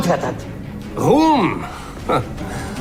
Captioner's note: chuckles